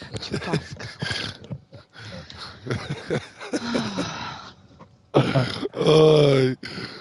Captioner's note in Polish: śmiech